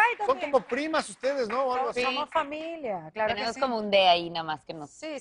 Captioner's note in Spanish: aplausos